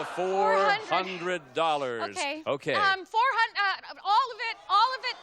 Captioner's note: audience groaning